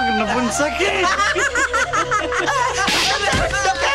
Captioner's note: Laughs